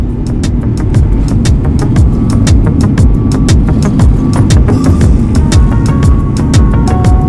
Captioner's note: gentle music; plane engine purring; gentle music; plane engine purring